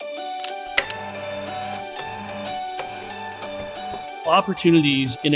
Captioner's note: mechanical SFX